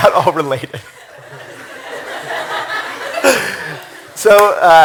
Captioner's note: laughter